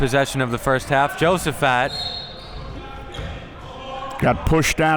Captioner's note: whistle blowing